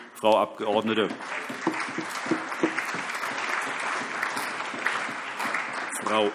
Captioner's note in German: Allgemeiner Beifall